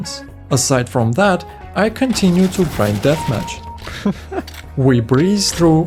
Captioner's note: laughter